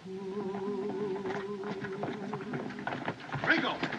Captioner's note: horses Galloping Away